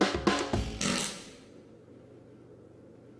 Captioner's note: farts